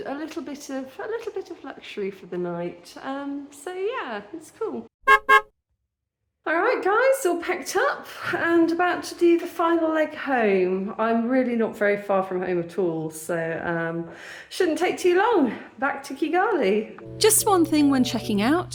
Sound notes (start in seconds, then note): 5.0 car horn beeping